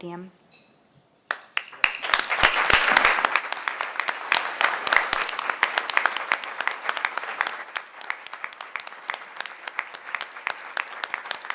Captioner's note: applause